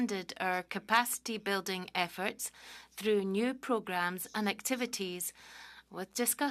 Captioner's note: speaking French